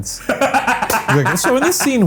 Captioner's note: Ryan laughs